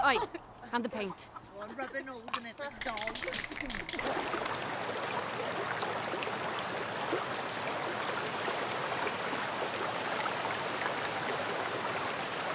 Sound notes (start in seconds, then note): 2.6 spraypaint can rattles; 3.9 river flowing fast